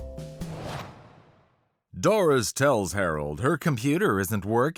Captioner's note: speaking normally